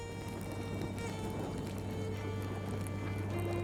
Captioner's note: fire crackles